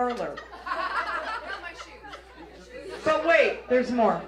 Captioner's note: audience laughs